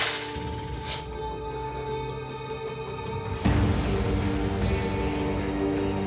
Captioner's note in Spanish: ruido al tirar las monedas